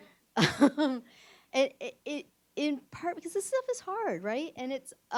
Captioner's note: laughs